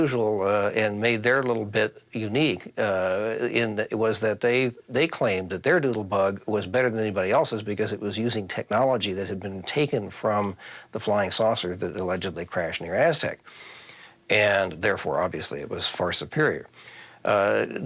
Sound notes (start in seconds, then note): none